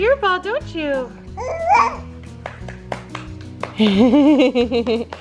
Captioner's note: baby coos; giggles